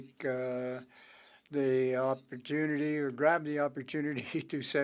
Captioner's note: speaking French